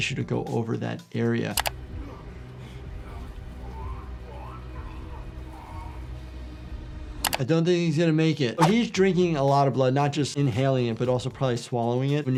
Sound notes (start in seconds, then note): 1.5 mouse clicks; 1.9 panting; 3.0 gagging